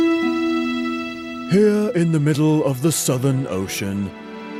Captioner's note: imitates documentary narrator